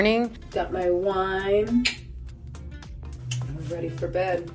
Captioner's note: clicks tongue